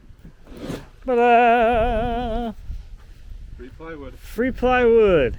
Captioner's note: vocalizing